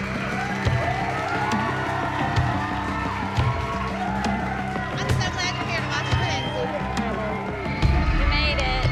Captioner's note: crowd cheering